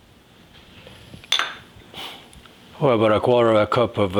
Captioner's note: glass clinking